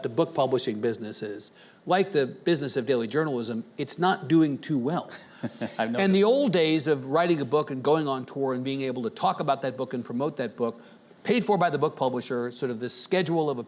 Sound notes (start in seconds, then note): 5.2 chuckles